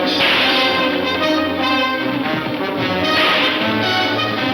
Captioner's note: hooves thudding